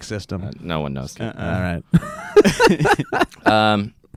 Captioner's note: laughs